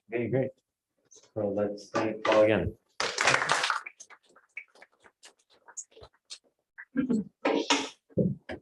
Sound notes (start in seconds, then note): 2.9 applause